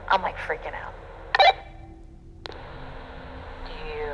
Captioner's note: walkie-talkie blips